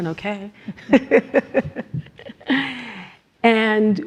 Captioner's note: laugh